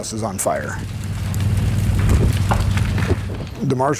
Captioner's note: fire crackling